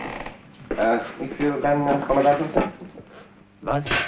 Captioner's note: German spoken audio